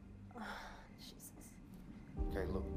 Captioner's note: sighs